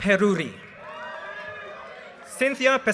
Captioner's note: audience cheers and applause